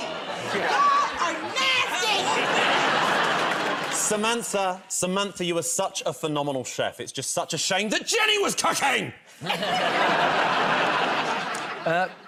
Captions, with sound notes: Y'all are nasty! [ Laughter ] -Samantha. Samantha, you are such a phenomenal chef. It's just such a shame that Jenny was cooking! [ Laughter ]